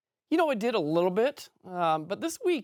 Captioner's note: French